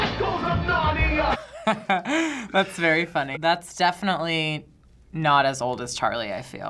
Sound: laughs

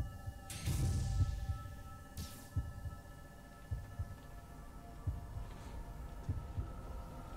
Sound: heart beating

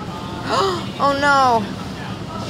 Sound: gasps

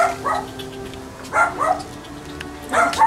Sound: tongue clicks

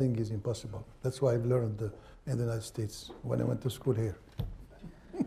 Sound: laughs

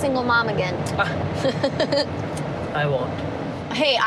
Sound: laughing

